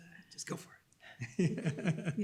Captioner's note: laughs